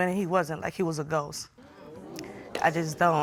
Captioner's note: audience exclaims